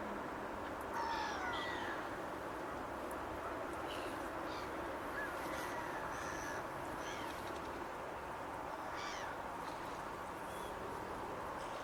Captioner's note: many bird calls